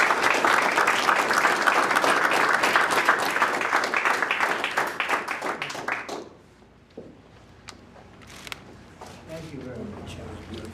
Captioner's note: applause